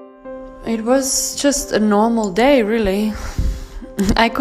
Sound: actress Voiceover

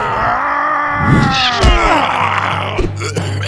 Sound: everyone roars; thump

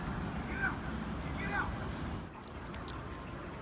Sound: rowers shouting in background; water tinkling

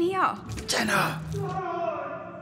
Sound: door opens; more screams

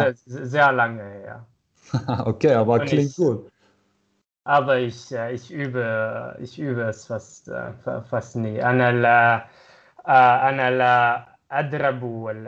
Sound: using Lower German

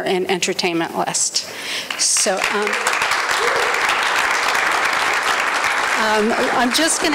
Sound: applause

